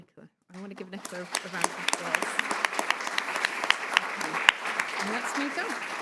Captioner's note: audience applauds